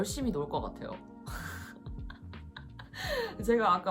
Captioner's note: laughing